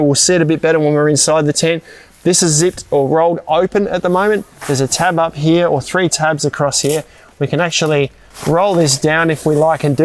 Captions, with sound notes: we'll see it a bit better when we were inside the tent. This is zipped or rolled open at the moment. There's a tab up here, or three tabs across here. (Velcro tearing) We can actually roll this down if we like